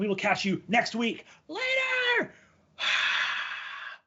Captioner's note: gasps